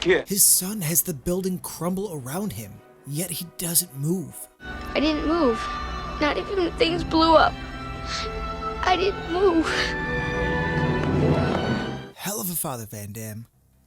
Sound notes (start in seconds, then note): 8.5 crying